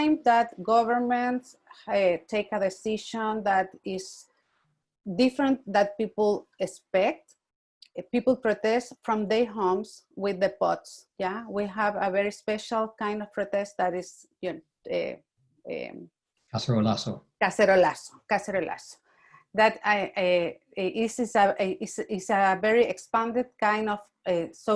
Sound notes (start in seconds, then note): 16.9 speaks in Spanish